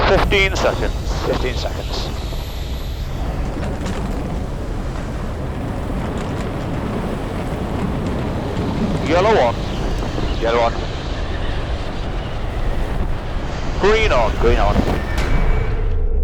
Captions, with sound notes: - 15 seconds. - 15 seconds. (wind rustling) - Yellow on. - Yellow on. - Green on. - Green on.